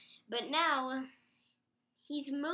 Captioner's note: long pause again